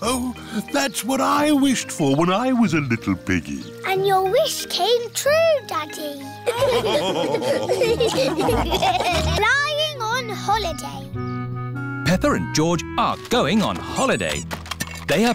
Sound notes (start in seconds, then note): 6.4 all laughing